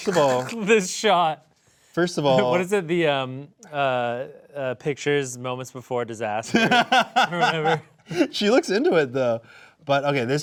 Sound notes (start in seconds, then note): 0.4 snickering; 6.5 laughing